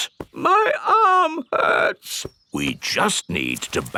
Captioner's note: in teddy's voice; in normal voice